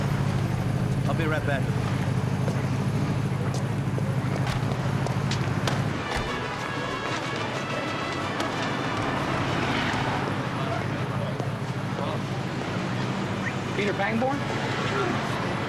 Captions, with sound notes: - I'll be right back. - (whistles) Peter Pangborn?